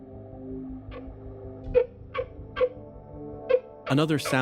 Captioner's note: Zahn Laugh